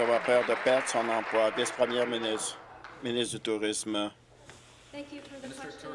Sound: applause

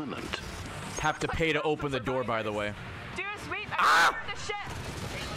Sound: screams

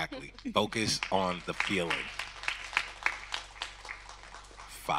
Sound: audience clapping

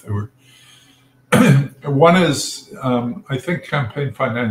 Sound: cough

